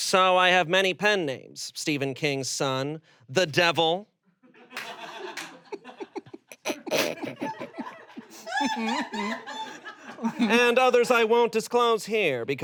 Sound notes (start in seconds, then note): 4.5 everyone laughs